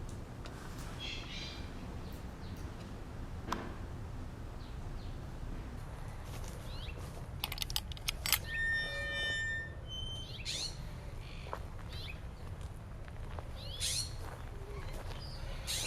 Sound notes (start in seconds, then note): 7.4 creaking gate; 13.4 birds chirping